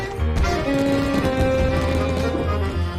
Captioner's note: fireworks thundering